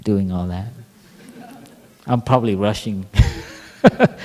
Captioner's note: laughter